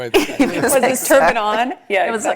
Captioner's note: laugh